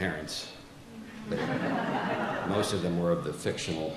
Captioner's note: audience laughs